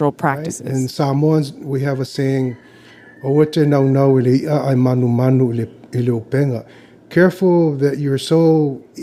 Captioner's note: speaking Samoan